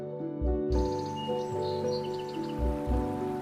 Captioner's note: birds singing; water running